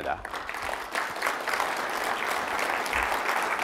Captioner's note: applause